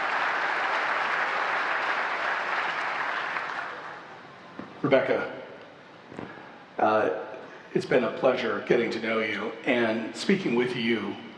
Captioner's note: applause